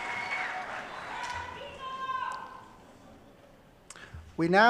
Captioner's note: clapping